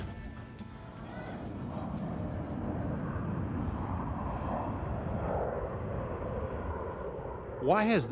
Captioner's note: airplane Taking Off